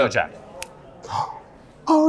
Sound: gasps

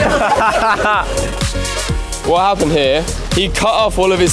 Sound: laughing

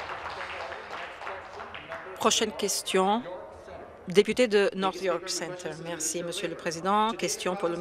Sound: some Applause

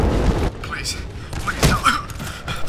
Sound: grunt

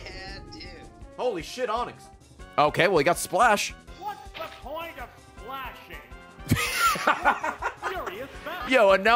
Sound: laughs

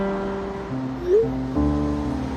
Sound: message sound effect playing

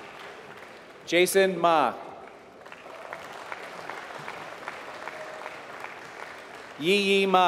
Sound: applause

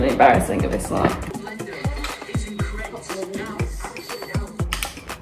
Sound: TV playing

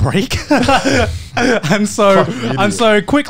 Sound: laughing

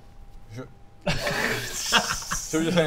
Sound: backstabbing giggles

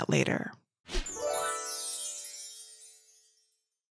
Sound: gentle chiming

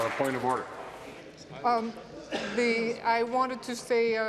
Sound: applause

